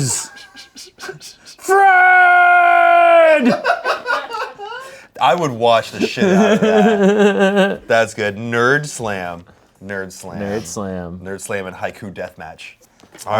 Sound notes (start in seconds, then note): 3.3 everyone laughs; 7.5 laughs